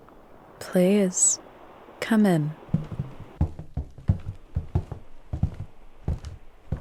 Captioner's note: footsteps